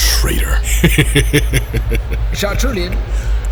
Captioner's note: Lapadine laughs heartily